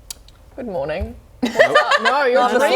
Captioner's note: laughing